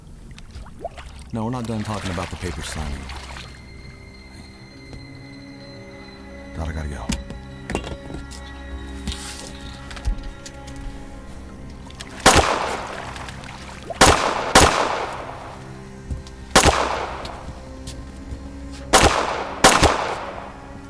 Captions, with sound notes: (tense music) No, I gotta go. (gun blasting) (tense music)